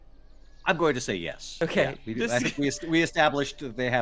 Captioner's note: laughs